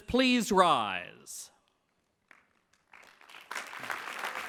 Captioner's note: clapping